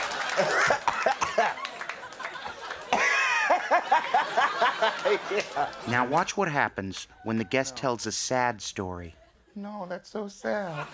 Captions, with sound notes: (coughing) Now watch what happens when the guest tells a sad story. No, that's so sad.